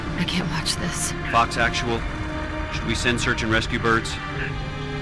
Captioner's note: radio